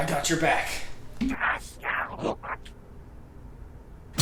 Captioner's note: alien Screaming